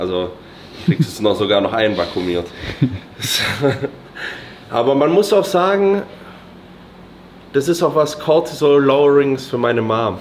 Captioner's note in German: gelächter